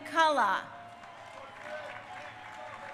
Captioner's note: crowd cheering